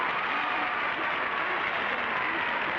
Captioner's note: applauding and cheering